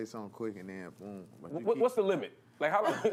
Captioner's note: laughter